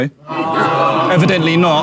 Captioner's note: audience groans